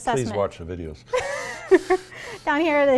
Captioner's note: laughter